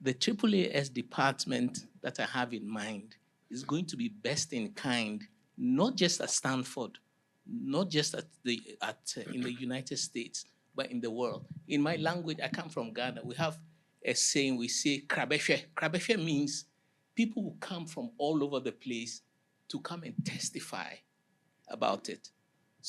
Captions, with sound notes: The Triple AS department that I have in mind is going to be best in kind, not just at Stanford, not just at the at in the United States, but in the world. In my language, I come from Ghana, we have a saying, we see (speaking in a foreign language). (speaking in a foreign language) means people will come from all over the place to come and testify about it.